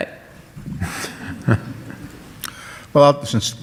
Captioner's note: audience laughs